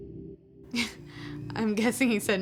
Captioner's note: laughs nervously